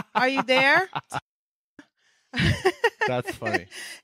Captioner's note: laughing